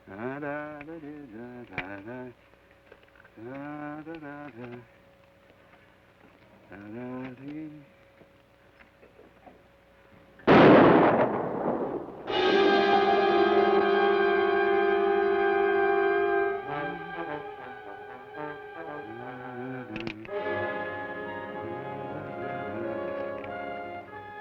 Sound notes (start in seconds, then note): 0.1 hums melodically; 10.4 gun fires; 12.3 ominous orchestral music; 19.3 hums melodically; 20.0 gun cocks